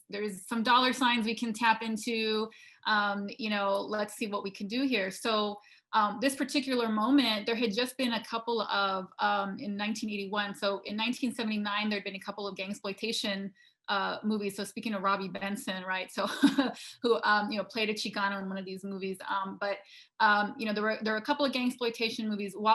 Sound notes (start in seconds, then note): 16.3 laughing